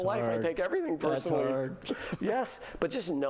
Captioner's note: laughter